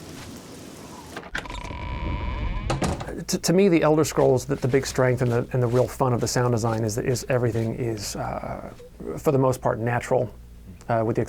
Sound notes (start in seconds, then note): 1.1 door creaks